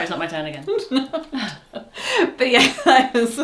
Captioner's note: laughs